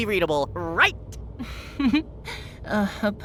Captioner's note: chuckle